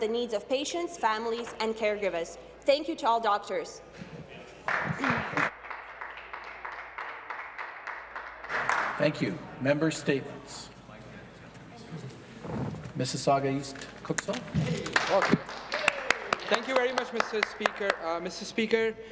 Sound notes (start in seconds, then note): 7.4 some applause